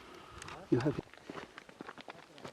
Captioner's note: non-english speech